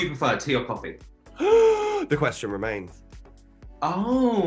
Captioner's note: gasps